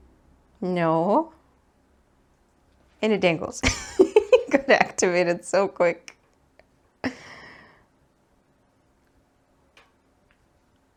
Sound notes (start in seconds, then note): 3.7 gremlin giggles of pure joy